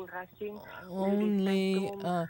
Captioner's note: speaking French